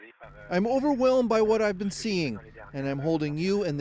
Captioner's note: speaking French